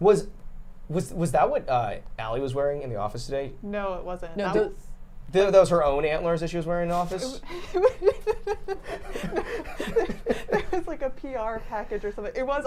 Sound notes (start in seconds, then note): 8.7 laughing